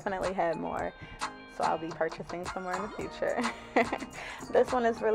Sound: chuckles

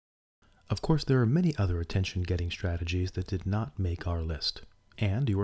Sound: voice-over

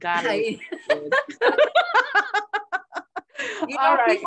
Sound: both laughing

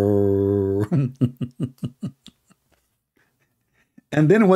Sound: Ketawa

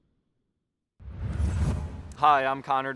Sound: swoosh

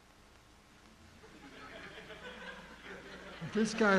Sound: audience laughing

